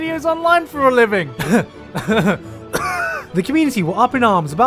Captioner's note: pained cough; cough; cough Cough